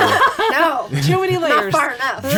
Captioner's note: group laughs